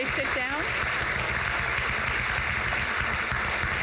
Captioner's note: crowd claps